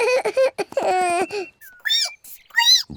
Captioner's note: sobs; squeaks